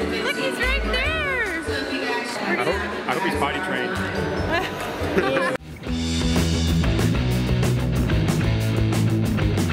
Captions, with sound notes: Look, he's right there. - I hope he's potty trained. (laughing) (rock music)